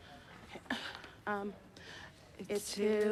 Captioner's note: sighs